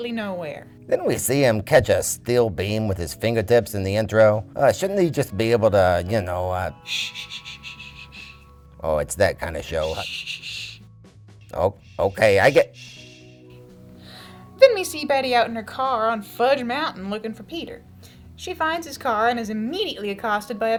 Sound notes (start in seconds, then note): 9.8 screeching